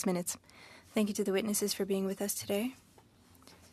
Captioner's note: speaking French